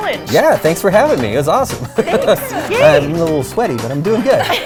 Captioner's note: laughs